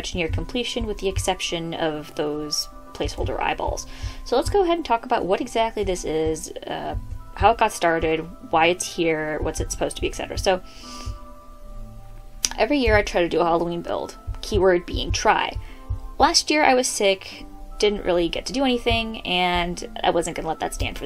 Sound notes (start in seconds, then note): 10.7 inhale